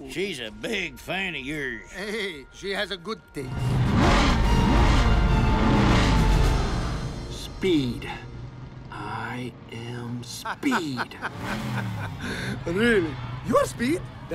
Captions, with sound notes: She's a big fan of yours. - Hey, she has good taste. (engines revving) - Speed, I am speed. - (laughing) Really, you are speed?